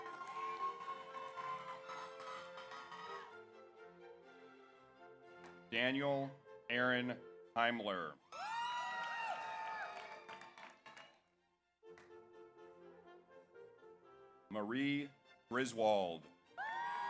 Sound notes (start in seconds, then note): 0.0 audience cheers; 0.0 audience applauds; 8.3 audience cheers; 8.3 audience applauds; 16.6 audience cheers; 16.6 audience applauds